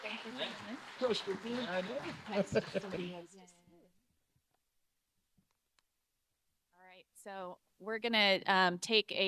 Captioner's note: audience applauding